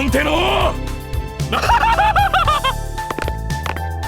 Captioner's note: lecherous laughter